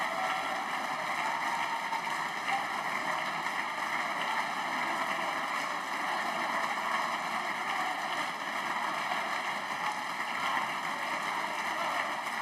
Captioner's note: applause